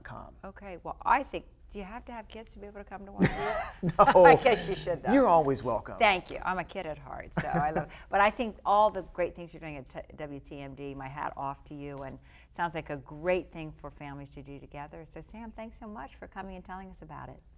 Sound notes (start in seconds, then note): 3.2 laughing